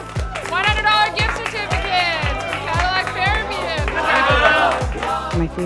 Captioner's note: group cheering